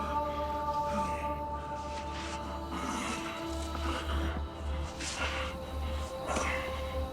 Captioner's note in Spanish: Gemidos